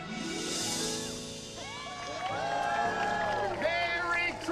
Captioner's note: cheering